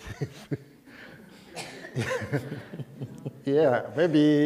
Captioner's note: laughter